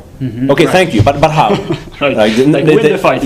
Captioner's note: laughter